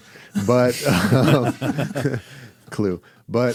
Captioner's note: laughs